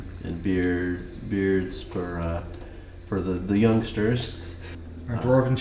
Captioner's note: laughs